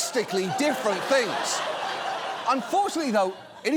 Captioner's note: audience laughs